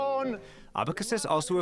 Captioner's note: through translator